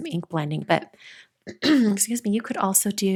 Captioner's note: clears throat